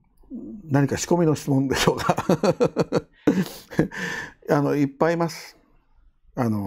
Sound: laughs

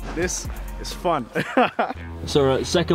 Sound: laughs

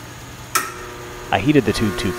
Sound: switch clicks, transformer hums

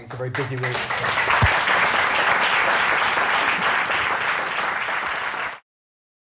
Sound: applause

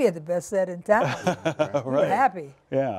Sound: laughter

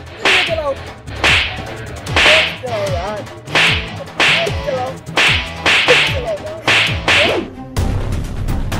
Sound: slapping each other

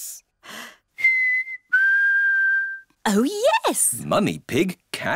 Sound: whistles

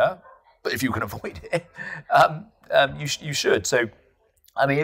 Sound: laughs

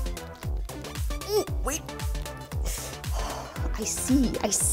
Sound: grunts

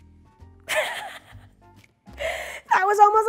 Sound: laughing

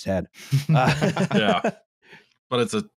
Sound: laughter

